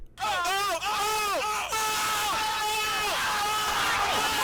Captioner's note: gay screaming